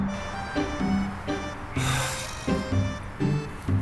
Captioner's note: sigh of relief